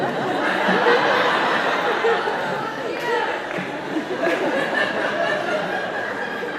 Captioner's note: laughing